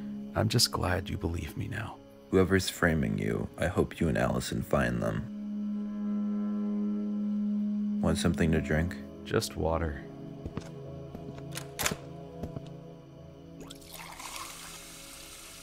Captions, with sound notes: I'm just glad you believe me now. Whoever is framing you... I hope you and Allison find them. Want something to drink? Just water... [door opens] [water pours]